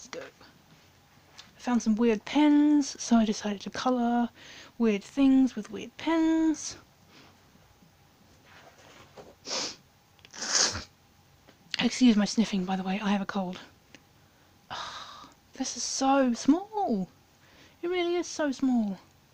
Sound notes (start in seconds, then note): 7.7 sniff x2 combo